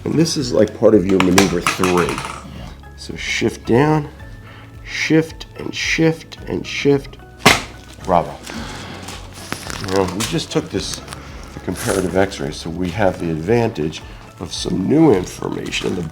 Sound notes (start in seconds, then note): 0.0 table clicks; 1.1 lever tapping; 7.1 table clicks